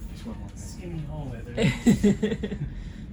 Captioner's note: laughs